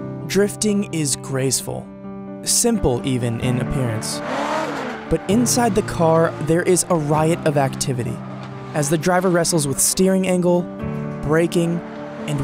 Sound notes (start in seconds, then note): 3.4 engine roaring; 3.8 tires squealing